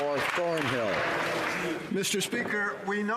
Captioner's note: some Applause